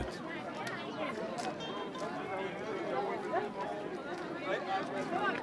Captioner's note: guests chattering